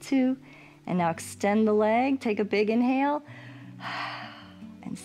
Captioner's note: exhales